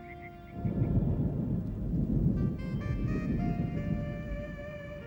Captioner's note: thunder booms